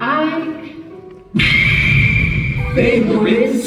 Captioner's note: Smash Home Run Bat Sound Effect